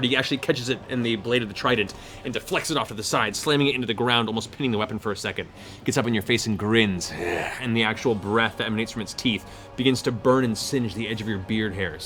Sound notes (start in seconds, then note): 7.1 snarls